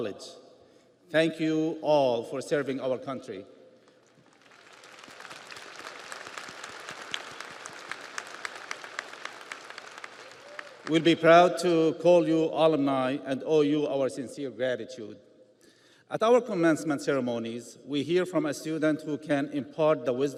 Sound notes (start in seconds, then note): 7.7 audience applauds